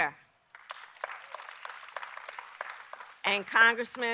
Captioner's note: applause